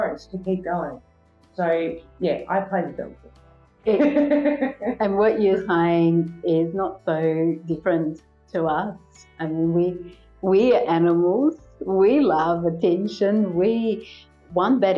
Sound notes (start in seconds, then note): 3.9 laugh